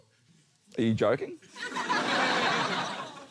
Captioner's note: laughter